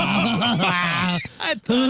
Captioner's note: laughing